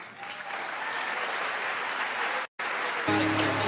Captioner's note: audience applauds; upbeat music